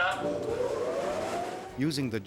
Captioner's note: whirs